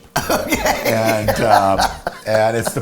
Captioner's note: laughing